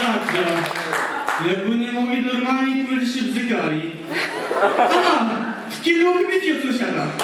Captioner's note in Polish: Aplauz